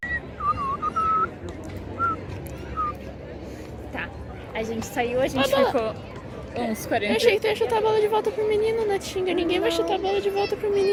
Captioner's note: whistle